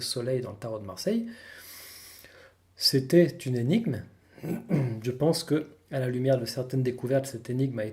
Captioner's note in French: raclement de gorge